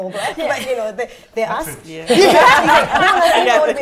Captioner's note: laughter